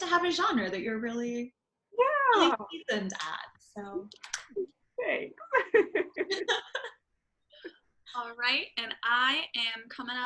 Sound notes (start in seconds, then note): 5.5 laughing